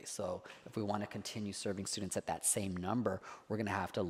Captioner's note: none